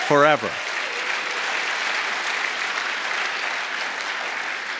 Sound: applause

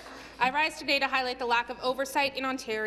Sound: some Applause

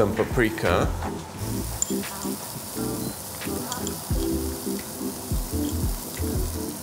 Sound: upbeat music; veggies sizzling

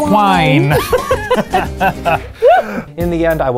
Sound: laughing

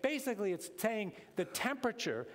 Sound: none

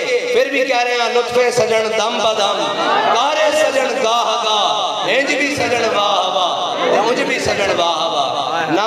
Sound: in Persian

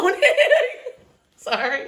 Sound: woman laughs

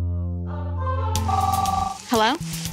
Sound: phone rings

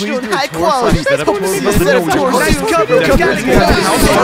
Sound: chatter

